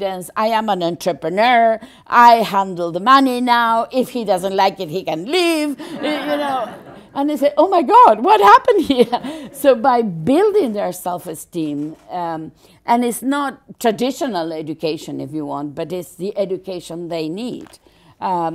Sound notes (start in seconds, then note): 5.8 general laughter